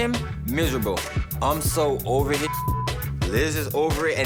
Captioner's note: beep